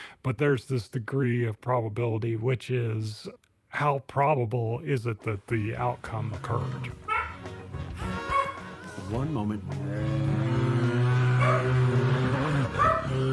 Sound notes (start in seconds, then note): 8.0 dog barking; 9.6 grizzly bears roaring; 9.9 lively music